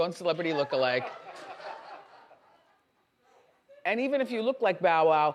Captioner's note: audience laughs